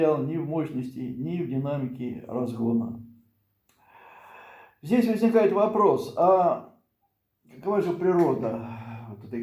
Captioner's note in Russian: вздыхает; тяжело вздыхает